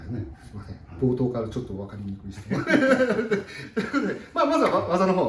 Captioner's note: laughs